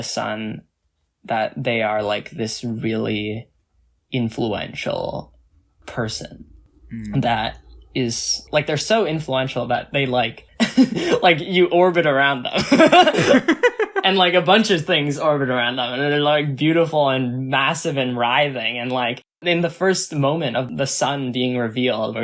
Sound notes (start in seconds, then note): 10.6 laughs; 12.6 both laugh